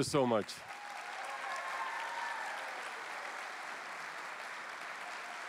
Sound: cheering

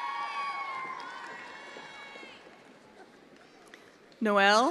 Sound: attendees applauding

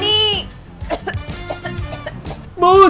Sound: coughing

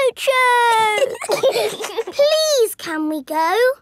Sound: giggling

